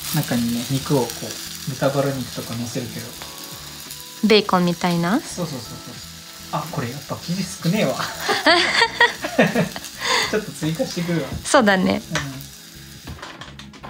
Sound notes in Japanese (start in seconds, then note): 8.0 笑い